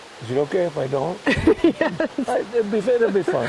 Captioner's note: laughing